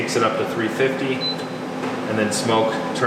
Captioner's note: beep